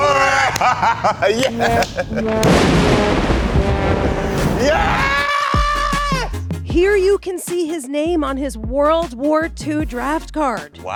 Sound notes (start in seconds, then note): 0.0 laughing; 1.6 thunder crushing